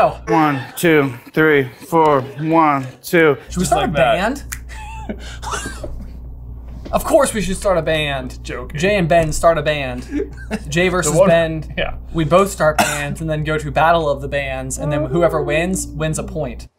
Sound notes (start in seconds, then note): 4.6 laughter